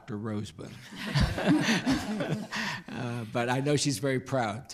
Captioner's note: laughs